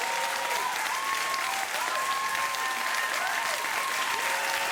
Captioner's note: audience applause